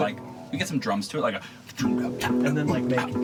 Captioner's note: imitates drums